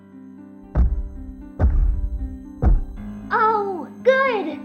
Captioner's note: thud. bang. smash